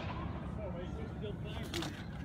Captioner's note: gunfire